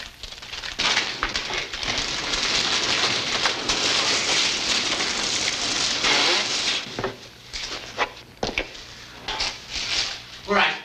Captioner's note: crinkling noises